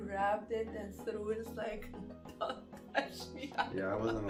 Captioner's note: laughs